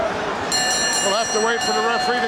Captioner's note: bell ringing